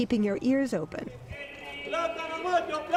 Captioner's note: speaking spanish